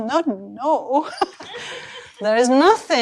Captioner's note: laughter